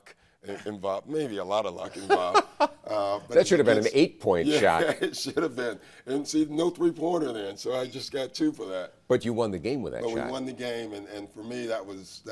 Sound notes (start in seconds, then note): 1.8 laughs; 5.6 laughs